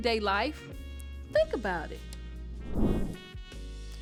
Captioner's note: air whooshes; chill jazz music